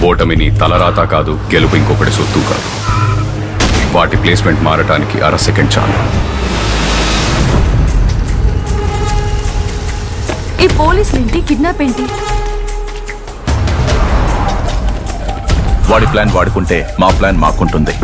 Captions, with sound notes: Neither defeat is your destiny nor win is anyone's property. [tyres screeching] [thud] It just takes half a second for them to exchange places. What's with the cops and the kidnap? He has his plans and we have our's.